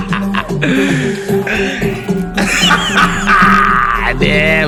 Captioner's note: laughing